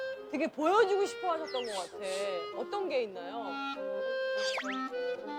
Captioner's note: smelling